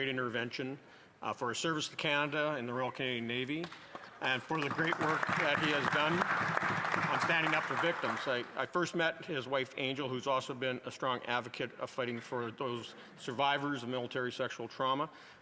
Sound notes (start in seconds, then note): 8.7 applause